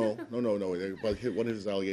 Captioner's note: laughter